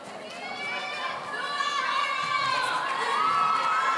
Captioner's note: audience cheering